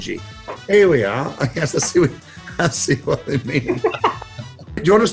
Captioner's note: chuckles